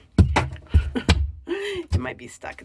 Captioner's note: wall knocking; laughs